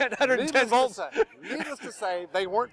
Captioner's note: laughing